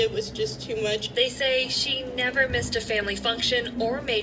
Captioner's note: on TV